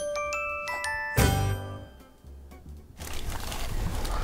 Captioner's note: bright chime